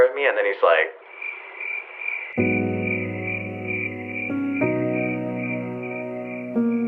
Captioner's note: crickets chirping; soft music